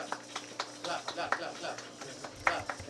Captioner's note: clapping